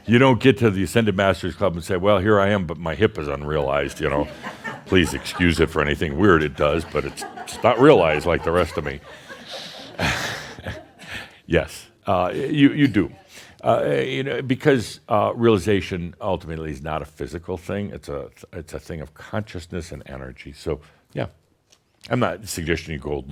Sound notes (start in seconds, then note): 11.3 laughter and chuckles